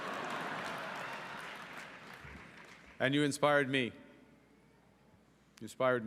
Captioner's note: cheering and Applause